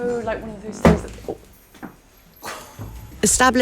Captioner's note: thud